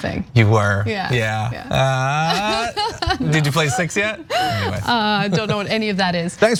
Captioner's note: laugh